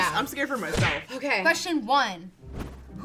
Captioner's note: punch sound